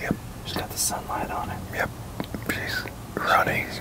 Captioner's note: whispering